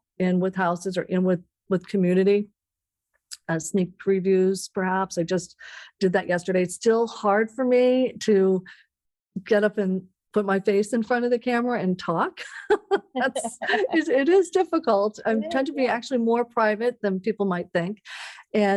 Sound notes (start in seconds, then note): 13.0 laughs